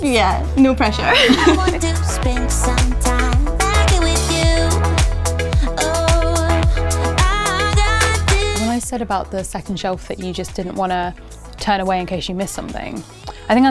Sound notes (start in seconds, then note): 1.1 laughing